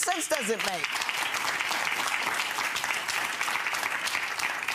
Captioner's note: audience applause